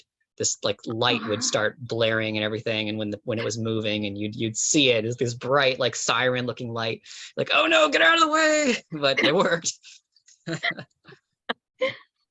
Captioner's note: laughs